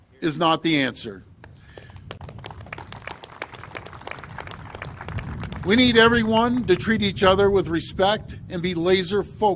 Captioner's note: applause